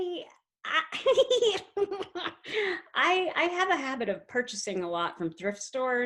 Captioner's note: giggles